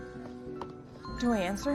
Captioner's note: phone ringing